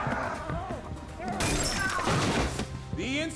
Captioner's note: glass shatters